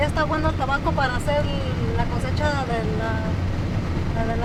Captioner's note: speaking in Spanish